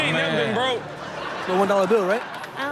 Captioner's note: audience laughs